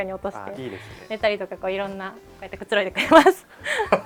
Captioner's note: laughs